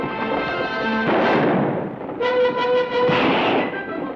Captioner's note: gun fires